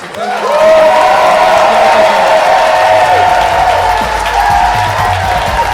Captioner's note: audience applauding and cheering